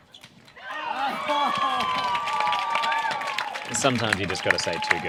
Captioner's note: crowd cheers